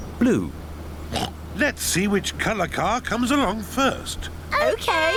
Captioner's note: oinks